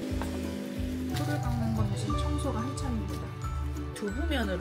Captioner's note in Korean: 밖에 잔디깎는소리 때문에 소음이..🤣